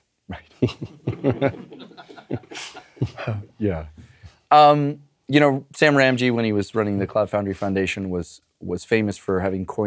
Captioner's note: laugh